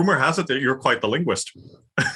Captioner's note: laugh